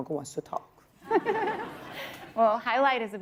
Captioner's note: laughter